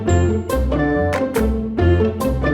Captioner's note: none